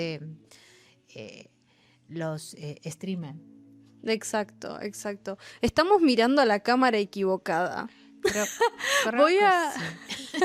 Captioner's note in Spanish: risas